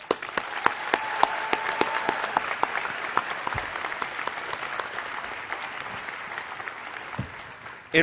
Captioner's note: applause